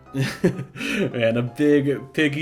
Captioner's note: both laughing